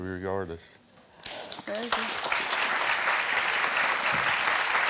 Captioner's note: crowd clapping